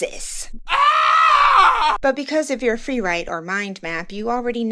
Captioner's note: scream